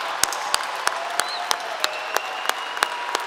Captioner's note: applause